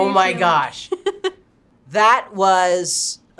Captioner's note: chuckles